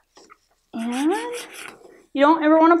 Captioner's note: rubbing